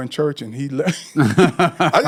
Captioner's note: laughing